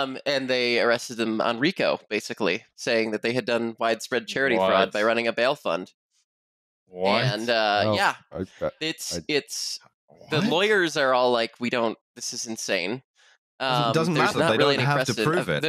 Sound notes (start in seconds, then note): 8.7 stammering